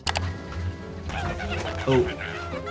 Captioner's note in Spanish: gritos escamosos